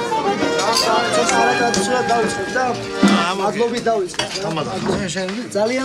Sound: speaking foreign language

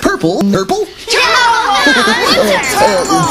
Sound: kids chatter

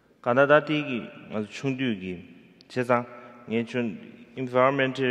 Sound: speaking in foreign language

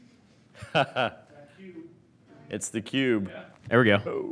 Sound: laughing

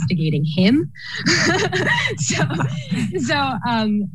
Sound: laughter

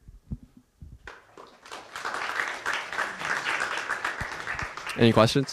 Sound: applause

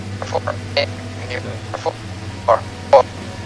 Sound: choppy voice in the radio

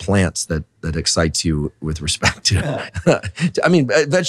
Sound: chuckles

